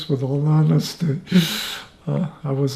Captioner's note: laughing